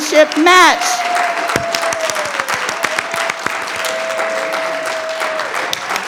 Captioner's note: audience clap and cheer